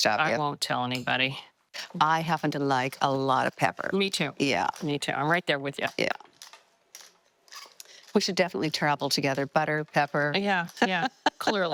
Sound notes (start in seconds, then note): 6.9 pepper grinding; 10.8 laughing